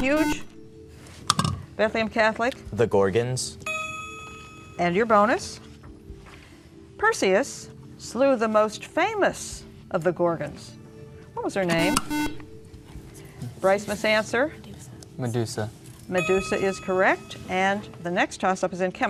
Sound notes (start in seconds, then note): 2.1 ding; 11.7 beeping